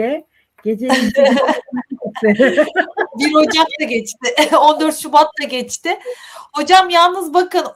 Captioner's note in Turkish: kahkaha